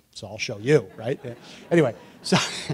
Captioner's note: laughter